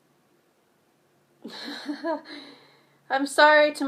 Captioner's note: laughs